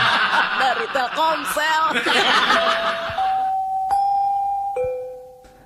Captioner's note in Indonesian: tertawa